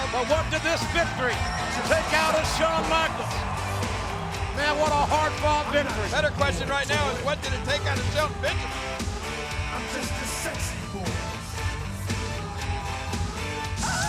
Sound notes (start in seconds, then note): 3.7 audience cheering and clapping